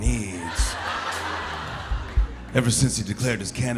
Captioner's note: light laughter